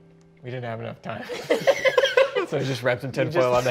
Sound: all laughing

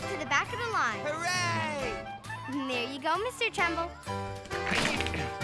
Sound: grunting and groaning

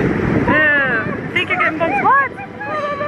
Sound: children calling

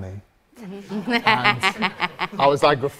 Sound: audience and susan laughs

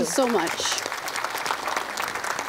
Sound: applause

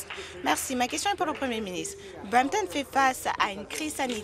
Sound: applause

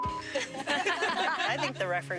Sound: laughter

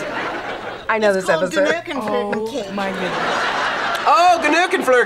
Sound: laughs

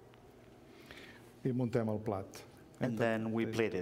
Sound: speaking catalan

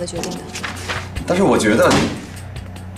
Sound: bang!

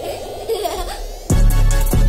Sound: upbeat music; child giggles; upbeat music

